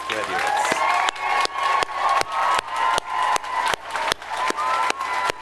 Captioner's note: audience applauding